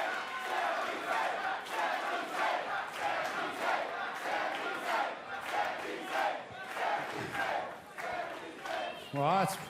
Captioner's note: cheers & applause; fans chanting